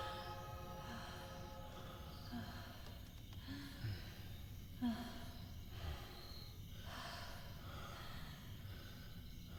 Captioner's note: heavy breathing